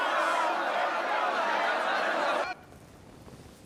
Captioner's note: shouting